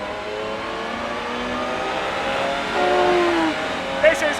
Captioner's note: engine roaring